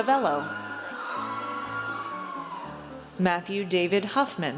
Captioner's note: audience cheers